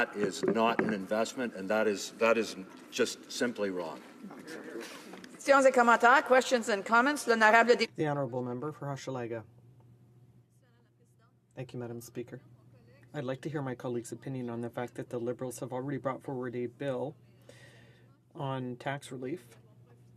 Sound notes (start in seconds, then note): 11.1 speaking French